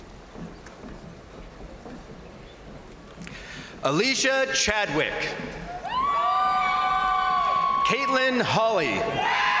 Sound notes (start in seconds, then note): 5.7 crowd cheering; 5.9 crowd applauding